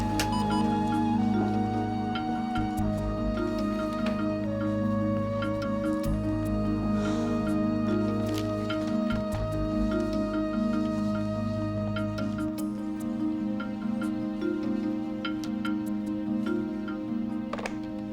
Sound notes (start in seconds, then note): 0.1 beeps; 6.9 sighs